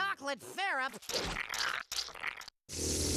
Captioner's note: slurping